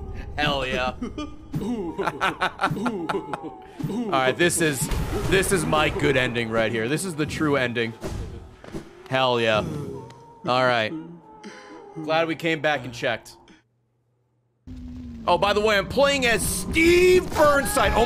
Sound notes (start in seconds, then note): 0.7 laughs